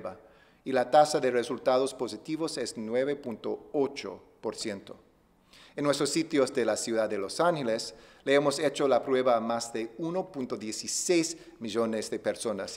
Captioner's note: speaking spanish